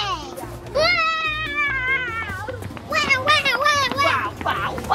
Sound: excited screams

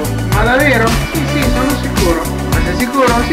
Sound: speaking Italian

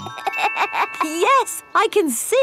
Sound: laughs

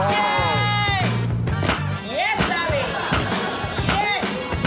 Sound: laughter

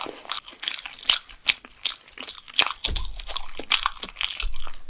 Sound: tapping 😍

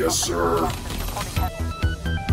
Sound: control board clacking; suspenseful synth music

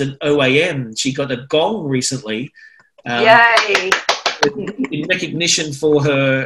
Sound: applause

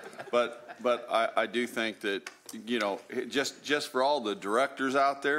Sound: chuckling

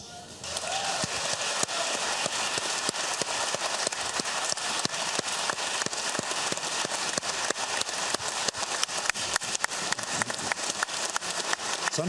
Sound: applause

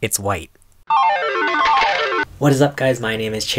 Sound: jackpot sound effect

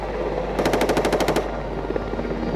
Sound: automatic gunfire

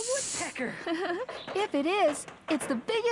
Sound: laughing

